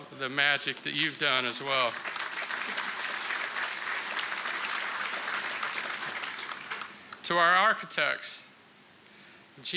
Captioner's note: applause